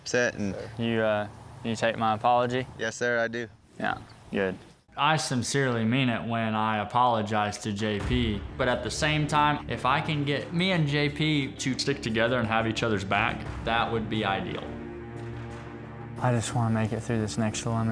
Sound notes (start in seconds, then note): none